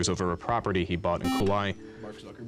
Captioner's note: beep